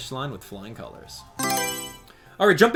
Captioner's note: Mario Selection Sound